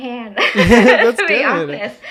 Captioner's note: people laughing